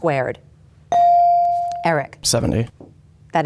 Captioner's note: bell dings